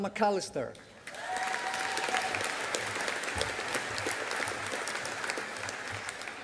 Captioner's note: audience applauding